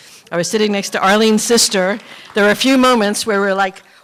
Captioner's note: applause